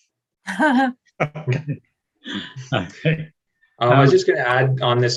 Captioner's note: attendees laughing